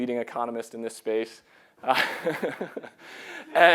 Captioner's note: laughing